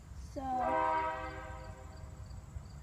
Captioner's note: horn blares